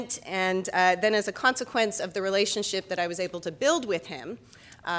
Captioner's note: none